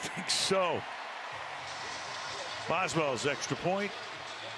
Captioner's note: cheering